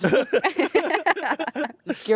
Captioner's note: everyone laughs